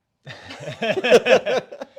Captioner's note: laughing